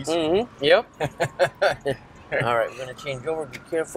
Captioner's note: both laugh